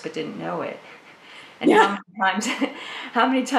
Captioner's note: laughs